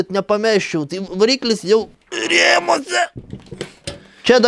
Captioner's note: while grunting